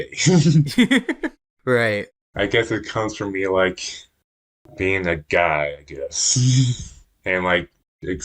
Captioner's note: laughs